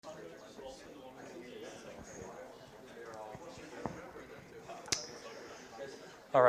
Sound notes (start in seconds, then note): 0.0 students chatters